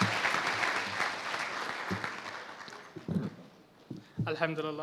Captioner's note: applause